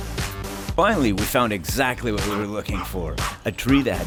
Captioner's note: Lola barks